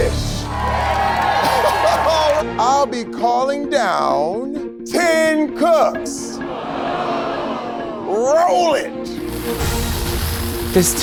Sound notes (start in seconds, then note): 0.0 crowd cheers; 6.4 crowd groans